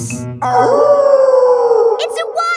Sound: wolf howling loudly

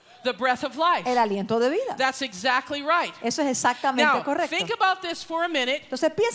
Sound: Spanish

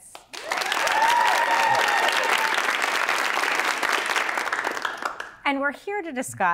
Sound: audience applauding and cheering

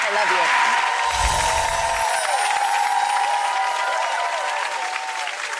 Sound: audience clapping and cheering

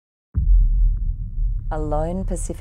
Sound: echoing boom

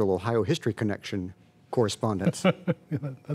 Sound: laughter

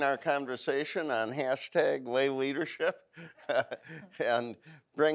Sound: laughs

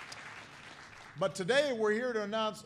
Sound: applause

